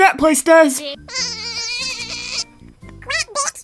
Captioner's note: faster sheep sounds